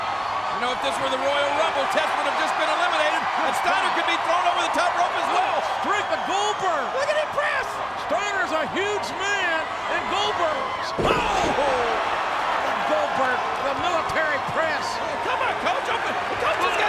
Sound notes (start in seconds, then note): 0.0 audience cheers; 10.6 audience cheers; 10.6 commentators groan